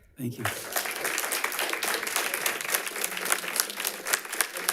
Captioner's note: audience applauds